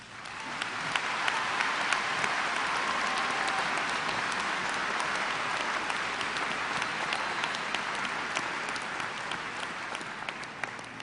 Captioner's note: applause